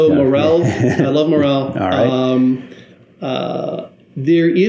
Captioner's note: laughs